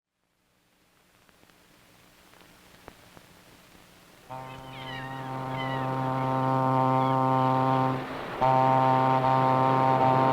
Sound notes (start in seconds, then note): 4.2 boat horn blowing; 4.4 seagulls cawing